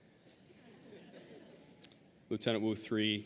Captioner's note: audience laughing